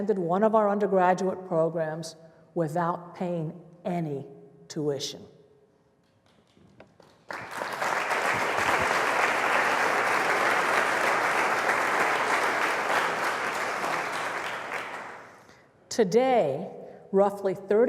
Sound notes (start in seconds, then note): 6.8 applause